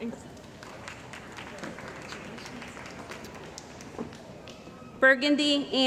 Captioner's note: applause